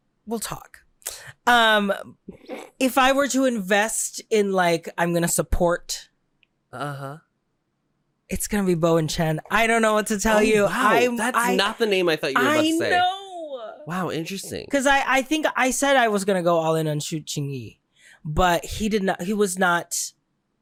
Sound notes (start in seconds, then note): 0.2 conspiratorial; 2.3 snort